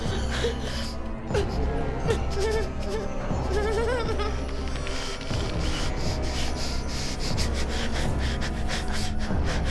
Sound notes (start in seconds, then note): 3.4 Claire whimpering